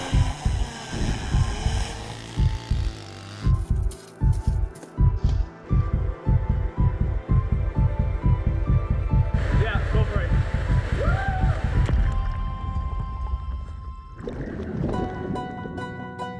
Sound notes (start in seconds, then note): 0.0 saw buzzing; 4.6 mysterious music